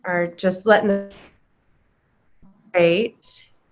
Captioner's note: computer static